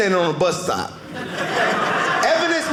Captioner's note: audience laughing